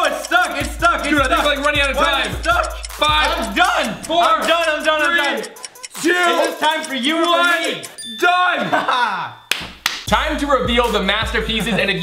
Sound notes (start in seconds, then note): 8.5 laughing